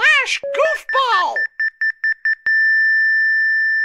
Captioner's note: heart monitor flatlines